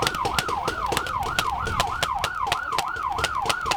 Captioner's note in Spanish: sirena de policía